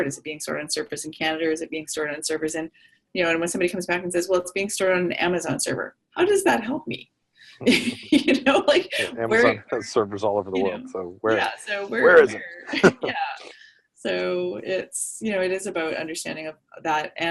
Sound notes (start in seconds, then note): 7.6 laughter